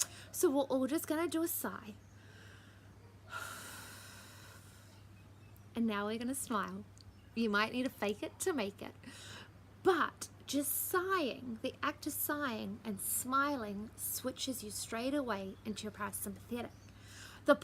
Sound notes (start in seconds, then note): 3.3 sighs